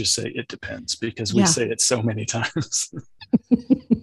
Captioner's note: laughs